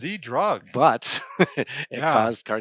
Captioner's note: laughs